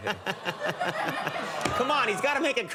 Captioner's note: Conan laughs; audience sighs sympathetically